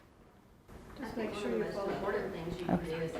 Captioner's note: murmurs